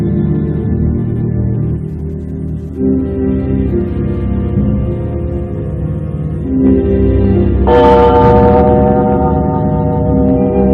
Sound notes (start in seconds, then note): 7.6 clock chimes